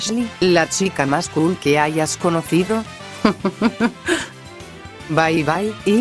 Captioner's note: playful laughter